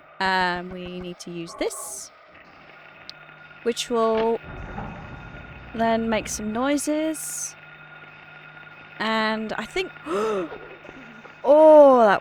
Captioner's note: gasps